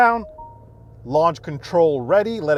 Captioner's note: car engine starts